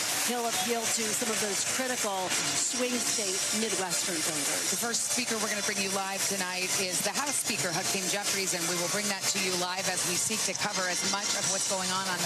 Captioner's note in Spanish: Aplausos